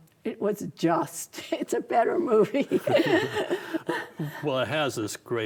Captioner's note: both laugh